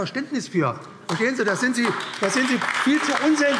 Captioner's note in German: Beifall AfD